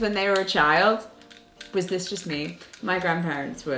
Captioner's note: inhaler shaking